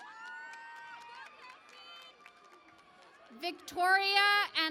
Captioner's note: cheering and Applause